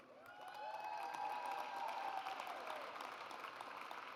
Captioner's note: audience cheers